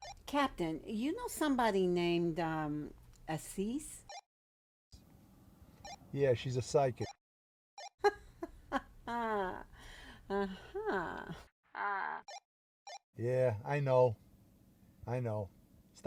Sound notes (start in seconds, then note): 4.1 radio bleeps; 8.1 Officer Miller/Dispatcher laughs